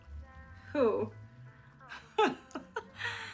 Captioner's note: laughs